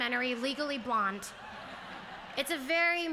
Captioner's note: laughter